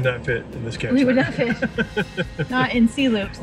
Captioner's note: laughs